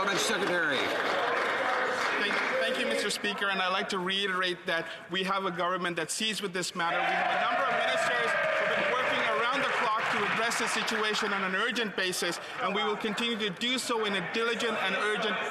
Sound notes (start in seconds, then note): 13.0 applause